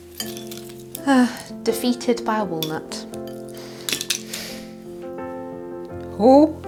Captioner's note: sighs